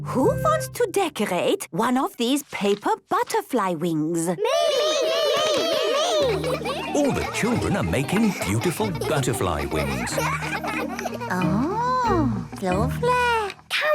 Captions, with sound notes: - Who wants to decorate one of these paper butterfly wings?! - (all calling out) Me! Me! Me! - All the children are making beautiful butterfly wings. - Oh, lovely.